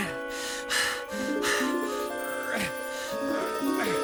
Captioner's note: panting